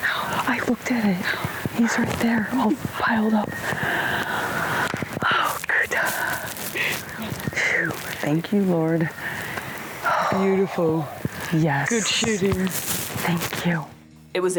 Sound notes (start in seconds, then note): 4.7 claps; 10.0 sighs